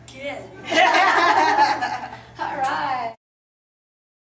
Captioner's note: laughter